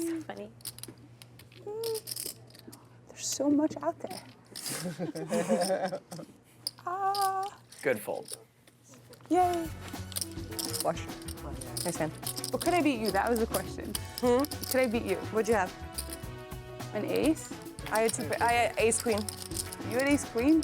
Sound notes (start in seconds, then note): 4.7 laughing